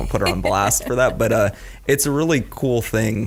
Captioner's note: laughs